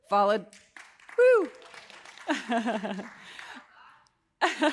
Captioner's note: audience applauding; laughs